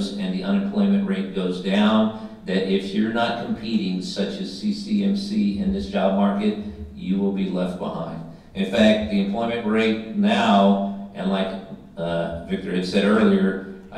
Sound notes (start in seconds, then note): none